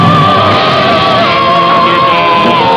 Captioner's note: crash!